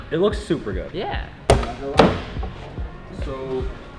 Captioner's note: door thuds